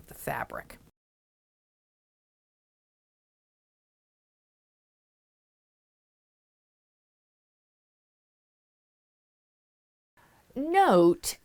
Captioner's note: no Sound Present